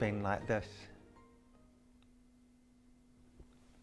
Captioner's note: silence